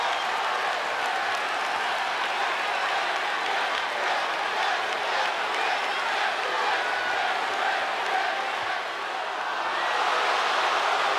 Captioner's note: applause